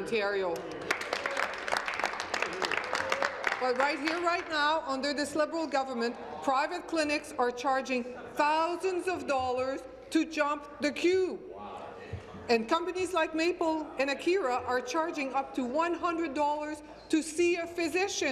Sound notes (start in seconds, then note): 4.1 applause